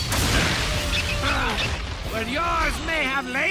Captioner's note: grunts